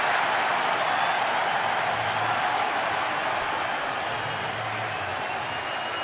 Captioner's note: cheering